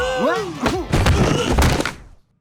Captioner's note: grunting